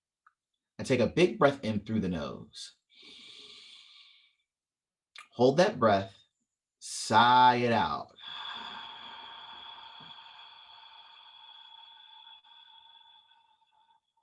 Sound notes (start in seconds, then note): 2.9 inhale; 8.1 exhale